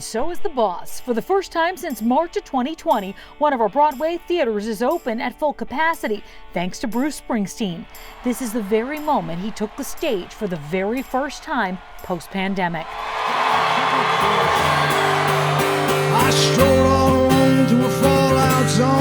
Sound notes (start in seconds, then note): 10.4 cheers and applause